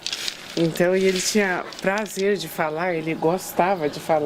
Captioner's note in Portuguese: em alemão